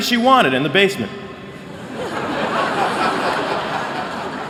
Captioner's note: laughter